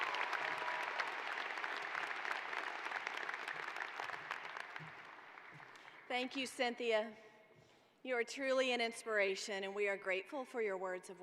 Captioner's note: cheers and applause